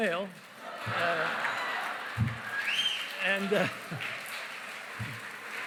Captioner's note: cheering, applause